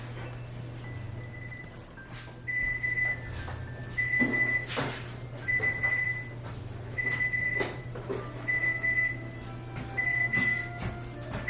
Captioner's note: oven timer alarm